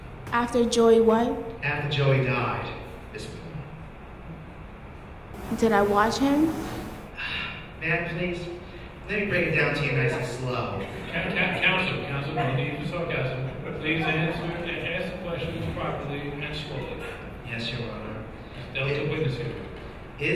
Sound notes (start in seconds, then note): 7.6 sighs; 11.2 audience chuckling